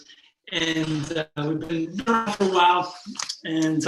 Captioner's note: microphone shuffles